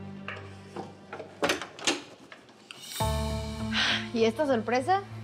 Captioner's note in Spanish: ruido al abrir